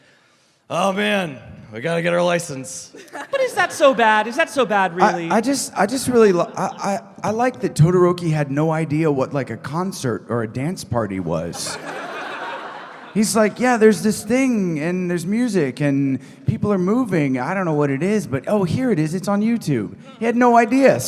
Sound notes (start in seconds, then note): 11.5 laughter